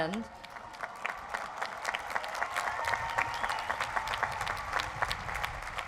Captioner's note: crowd applauds